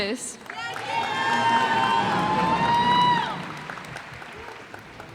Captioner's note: cheers and applause